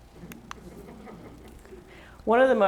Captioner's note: laughs